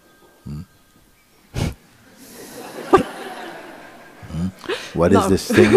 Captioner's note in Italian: squillo di un telefono, risate